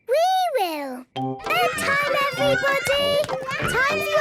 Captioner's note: children playing